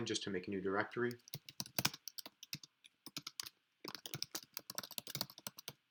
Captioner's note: keyboard clicking